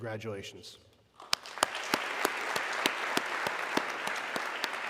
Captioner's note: audience clapping